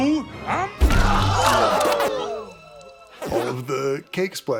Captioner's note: Nicelanders shouts